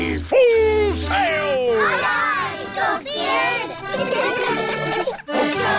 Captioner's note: giggling